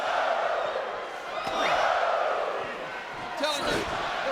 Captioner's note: audience cheering